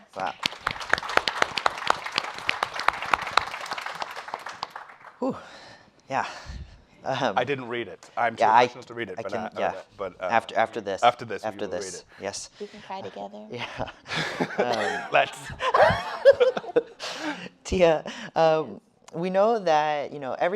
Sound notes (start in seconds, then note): 0.1 everyone applauding; 8.6 speaking faintly; 16.3 laughing